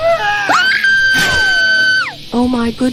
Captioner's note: Shirley Scream Like Rarity Nosie